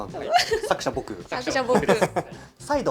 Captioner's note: laughs